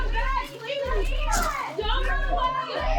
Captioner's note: shouting